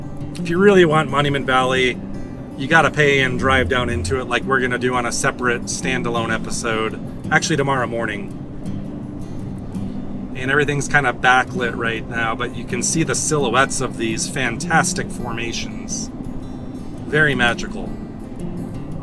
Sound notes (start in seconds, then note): none